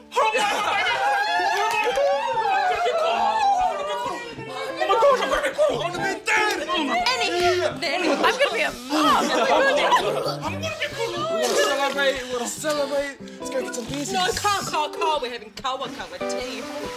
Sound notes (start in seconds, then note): 0.1 screams; 11.4 retching Continues